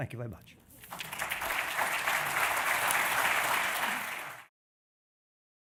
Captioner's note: applause